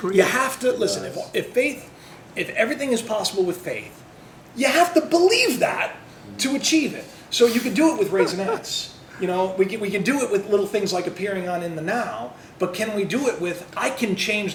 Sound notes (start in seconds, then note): 8.1 laughter